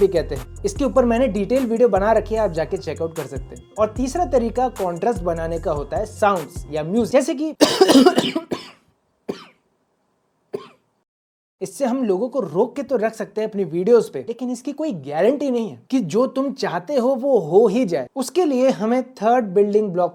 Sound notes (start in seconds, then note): 7.6 coughing sound